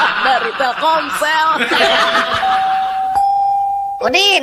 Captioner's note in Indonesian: tertawa